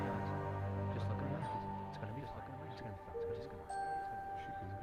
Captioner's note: mumbling